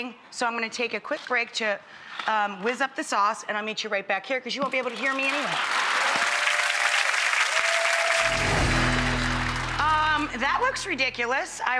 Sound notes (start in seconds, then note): 6.6 clapping